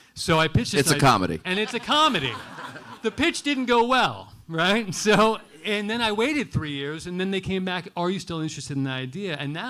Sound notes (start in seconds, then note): 1.5 audience laughing